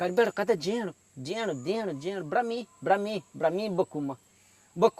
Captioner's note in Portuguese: falando em pidgin garimpeiro de português; falando em pidgin garimpeiro de português